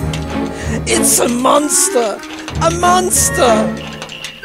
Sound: snaps

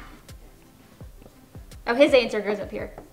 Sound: screaming

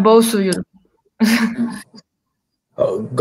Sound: chuckles

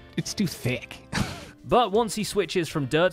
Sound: chuckles

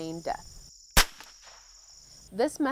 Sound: gunshot

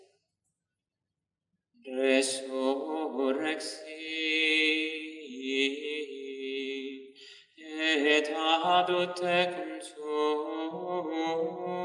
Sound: chant

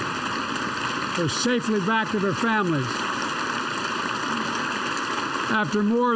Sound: applause

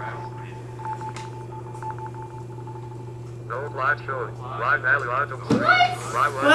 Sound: calculator voices

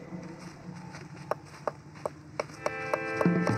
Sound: noise of hammer knocking nails

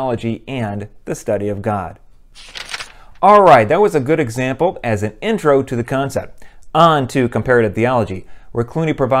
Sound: page turn

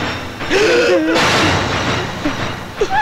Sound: gasps

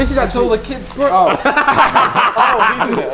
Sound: Ethan and Tobi laughing

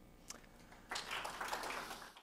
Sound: claps

